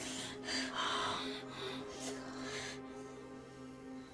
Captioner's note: breathing heavily